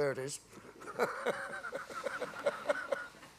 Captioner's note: laughs